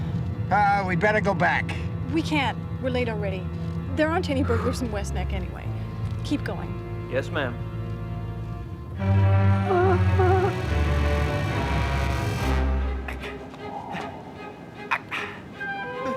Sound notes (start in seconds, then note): 9.9 whimpers